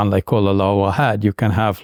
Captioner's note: speaks in Arabic language